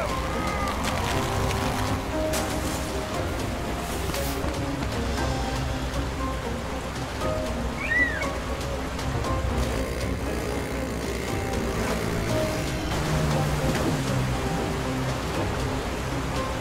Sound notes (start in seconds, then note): 0.1 rope straining; 7.7 bird crying; 9.6 motor revving; 12.5 boat revving